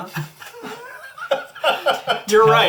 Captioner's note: all laugh